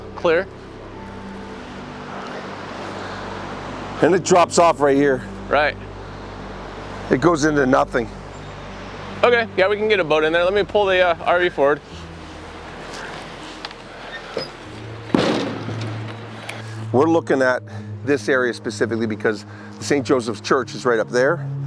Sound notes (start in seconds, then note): 13.9 ramp clonking on ground